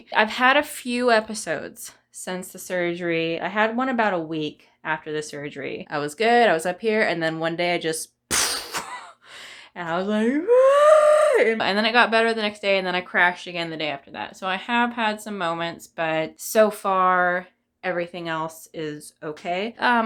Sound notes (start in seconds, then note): 10.2 cries